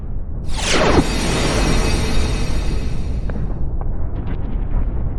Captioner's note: wind whooshing